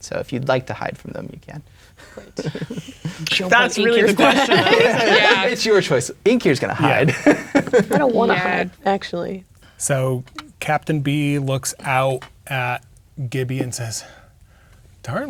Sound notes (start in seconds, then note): 2.0 chuckling; 4.7 others talking and laughing